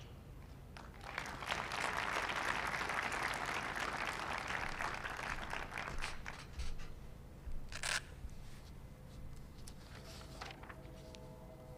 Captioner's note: applause